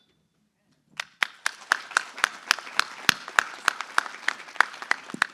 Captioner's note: applause